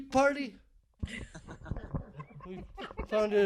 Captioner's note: laughing